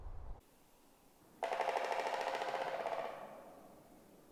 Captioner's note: woodpecker drumming